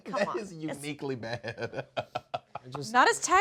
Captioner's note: chuckles